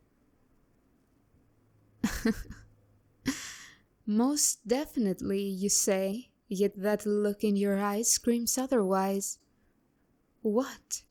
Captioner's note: chuckle